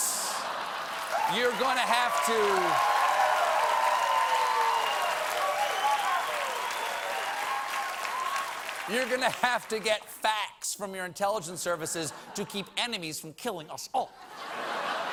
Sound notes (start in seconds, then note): 5.8 cheers and applause; 14.2 laughter